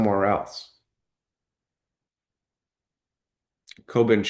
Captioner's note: pause